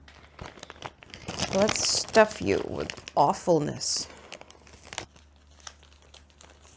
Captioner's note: crinkles; more crinckles